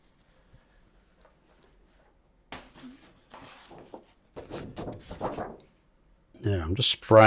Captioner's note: silence